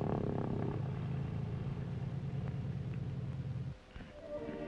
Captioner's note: engine purrs